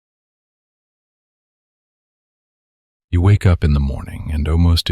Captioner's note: soft voice